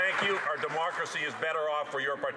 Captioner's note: some Applause